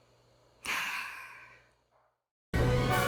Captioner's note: sigh